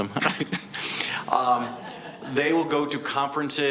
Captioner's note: laughing lightly